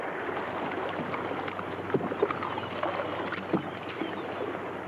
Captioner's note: water laps